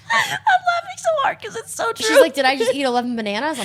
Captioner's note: laughing